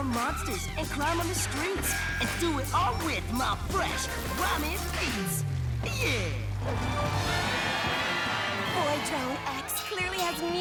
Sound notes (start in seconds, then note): 6.6 crowd cheers